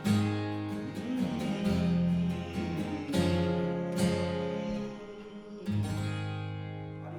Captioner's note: humming